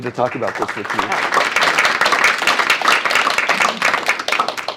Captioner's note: applause